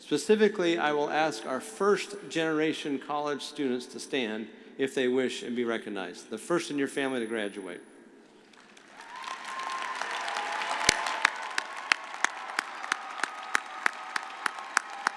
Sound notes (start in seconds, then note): 8.5 audience applauding; 8.8 audience cheering